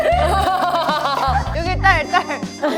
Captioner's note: coughing